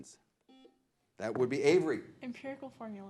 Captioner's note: buzzer blares